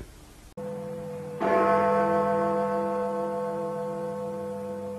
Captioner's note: sound of the Big Ben chimes